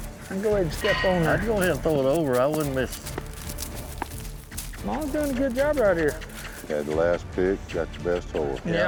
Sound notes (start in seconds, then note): 2.6 pats horse, makes kiss sound